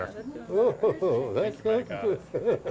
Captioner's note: laughs